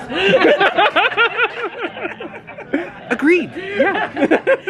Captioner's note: both laugh